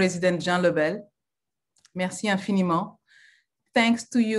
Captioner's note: French language